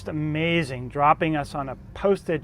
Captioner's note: plane engine roars